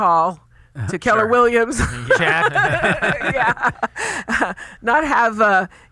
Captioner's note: laughs